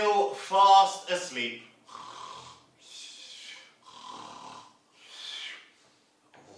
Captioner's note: sound of snoring